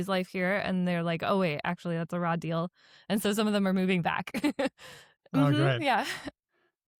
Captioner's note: laughs